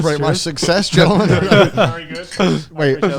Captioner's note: speakers laughing